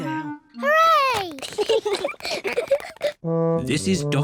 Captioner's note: both giggle